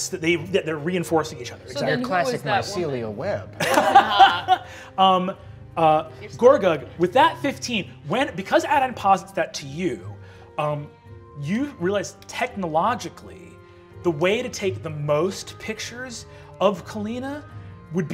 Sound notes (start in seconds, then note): 3.6 laughing